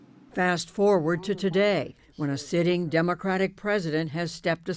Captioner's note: voice-over